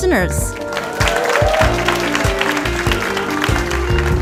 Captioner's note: audience clapping